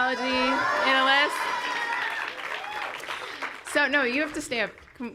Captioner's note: cheering